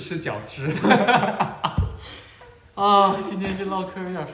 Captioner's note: hahahah